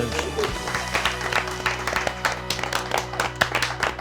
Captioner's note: crew clapping